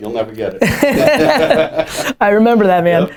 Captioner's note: laughter